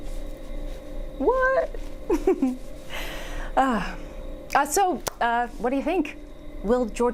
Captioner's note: laughing